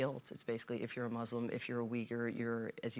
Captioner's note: none